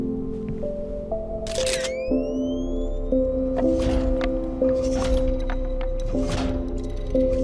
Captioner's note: camera click; heavy steps